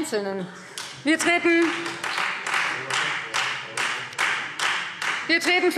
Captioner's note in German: Beifall Freie Demokraten